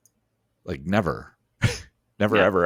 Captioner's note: chuckles